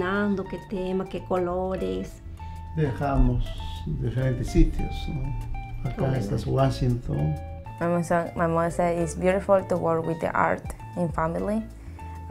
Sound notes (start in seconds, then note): 2.8 speaking Spanish